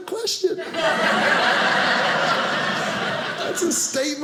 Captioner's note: audience laughing